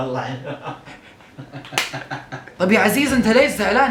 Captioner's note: laughing